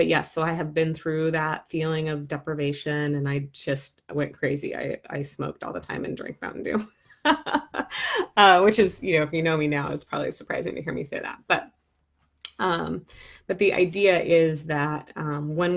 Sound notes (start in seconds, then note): 7.3 laughing